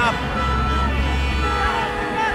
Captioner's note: horns honking